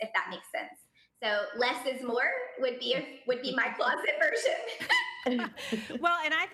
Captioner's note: laughing